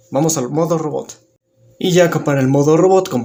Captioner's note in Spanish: Silencio